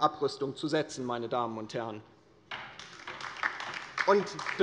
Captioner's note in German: Beifall bei der LINKEN